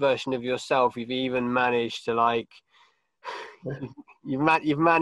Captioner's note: sighs